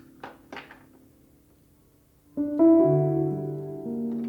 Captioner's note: statue clanking; sentimental music